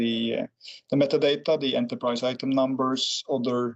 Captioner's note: clears throat